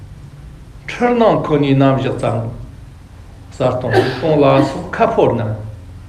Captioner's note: tibetan